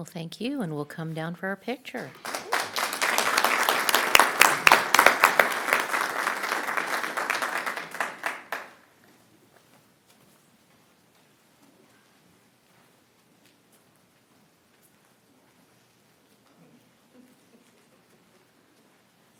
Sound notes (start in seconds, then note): 15.8 applause